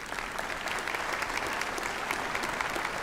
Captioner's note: applause